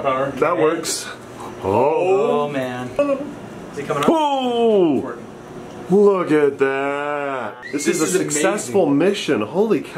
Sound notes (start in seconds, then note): 4.1 exclaims